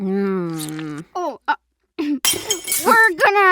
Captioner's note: plates smash